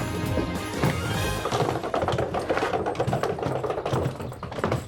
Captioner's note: rolling luggage